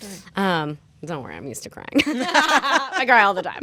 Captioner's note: laughter